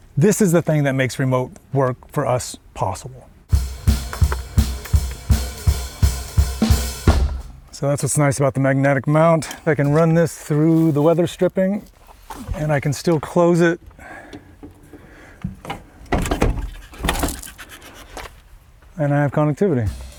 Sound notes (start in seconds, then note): 3.6 upbeat music; 14.0 panting; 15.4 van door clicking